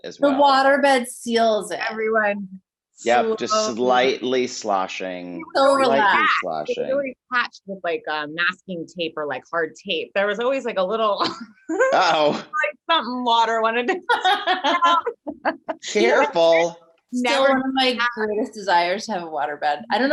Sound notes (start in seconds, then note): 11.7 chuckles; 14.0 Jessie laughing